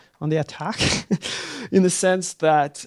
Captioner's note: laughs